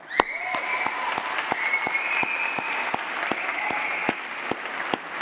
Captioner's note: applause